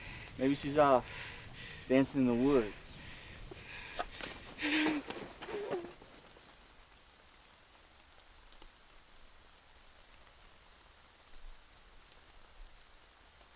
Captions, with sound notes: Maybe she's off dancing in the woods. (Lover panting) (rain falling)